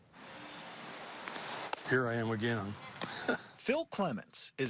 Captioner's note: chuckle